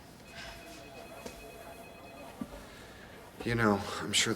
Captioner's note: phone ringing